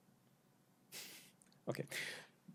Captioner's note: laughs